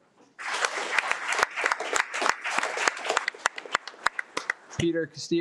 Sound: audience clapping

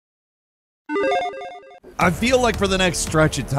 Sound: logo chiming

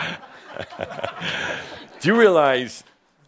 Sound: Adamus chuckles

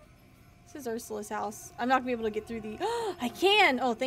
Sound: gasps

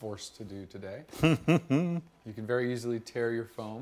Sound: laughing

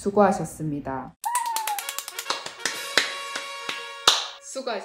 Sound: clap clap clap

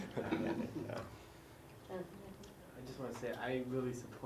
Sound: laugh

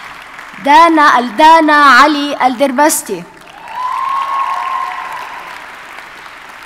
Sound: audience cheers and applauds

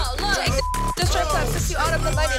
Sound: beep

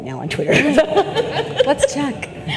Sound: audience laughs

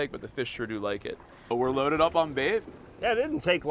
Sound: none

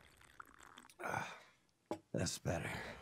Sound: slurping

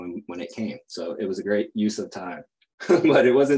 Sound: chuckles

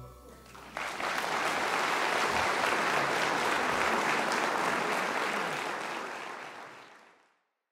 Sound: applause

